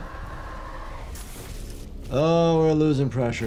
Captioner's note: glass shatters